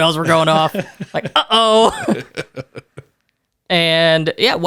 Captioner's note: laughs